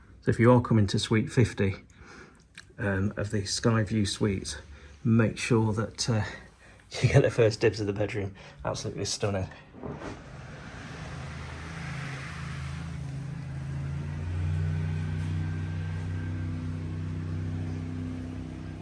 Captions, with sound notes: So if you are coming to suite 50 of the Sky View Suite, make sure that you get the first dibs of the bedroom. Absolutely stunning. (machine rumbling)